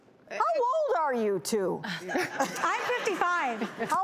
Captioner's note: audience laughing